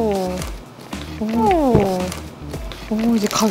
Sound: gulping

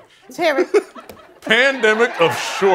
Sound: chuckling

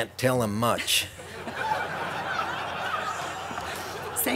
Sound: laughter

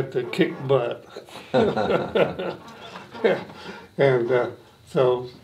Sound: both laughing

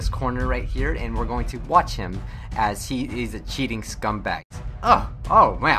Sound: gasp

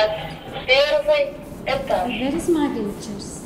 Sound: speaking in Russian

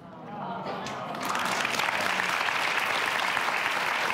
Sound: applause

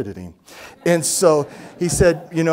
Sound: audience laugh

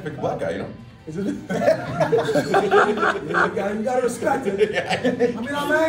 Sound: laugh

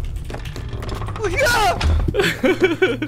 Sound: little scream; evil laugh

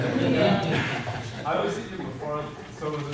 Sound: audience laughing

